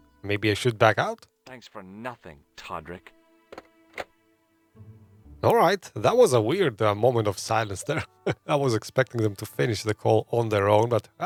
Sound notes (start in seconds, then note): 7.6 laughs